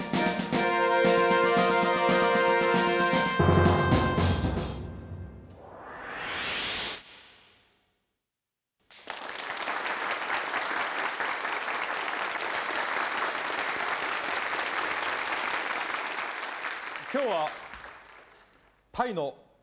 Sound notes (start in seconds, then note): 8.6 applause; 16.6 speaking japanese